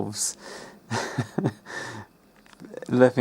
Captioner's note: laughs